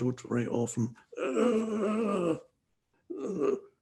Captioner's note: groaning